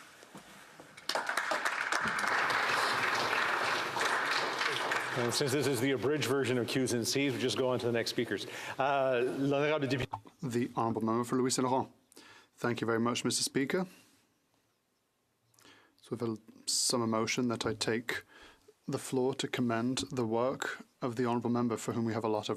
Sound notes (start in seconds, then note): 5.6 applause; 14.0 speaking French